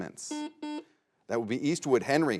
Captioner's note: buzzer buzzes